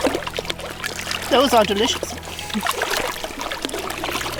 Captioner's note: laughs